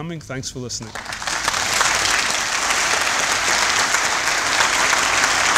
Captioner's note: applause